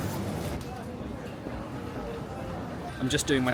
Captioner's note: crowd chattering